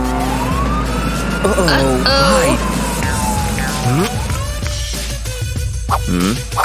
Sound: confused laughter

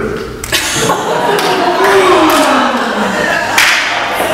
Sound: audience laughs

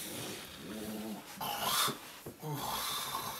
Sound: snores

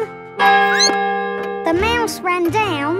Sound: clock chimes; squeaks

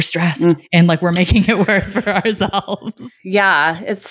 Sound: laughing

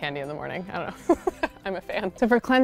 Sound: laughs

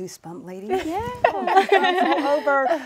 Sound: laughter

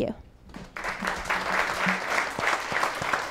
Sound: applause

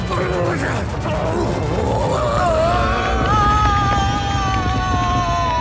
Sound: screams

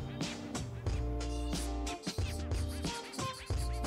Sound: upbeat music; pen scratching

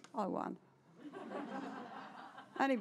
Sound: laughter

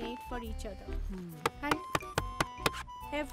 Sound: knocking on door

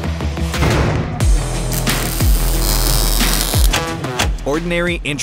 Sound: intense music; sizzling

